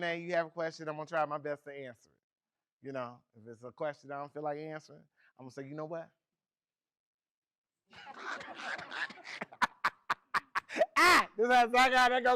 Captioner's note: laughs, Unintelligible